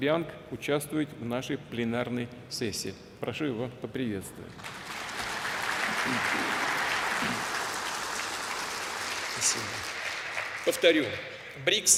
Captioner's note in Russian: Аплодисменты